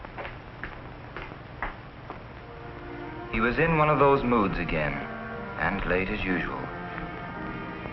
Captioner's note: voiceover